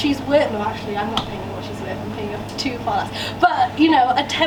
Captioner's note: none